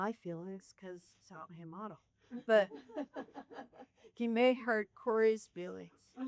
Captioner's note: laughter